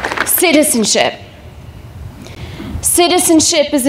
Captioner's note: applause